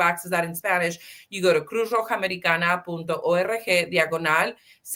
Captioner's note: speaking Spanish